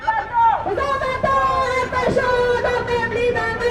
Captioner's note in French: en choeur